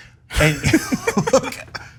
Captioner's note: laugh